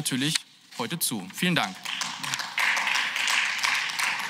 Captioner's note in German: Beifall